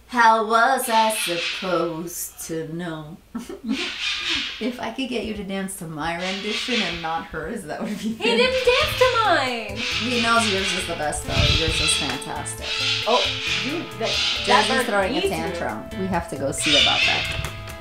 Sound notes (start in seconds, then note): 12.9 birds squawking